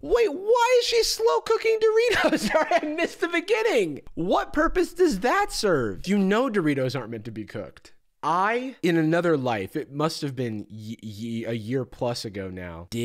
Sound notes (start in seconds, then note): 2.0 laughs